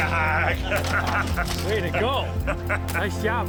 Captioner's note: man laughing